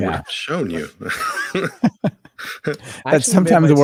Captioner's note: laughing